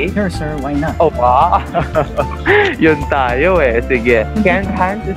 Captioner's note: laughs